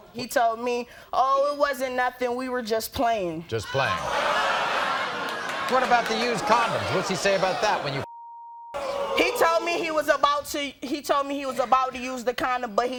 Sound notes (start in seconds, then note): 8.1 beep